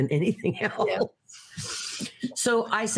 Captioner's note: laughing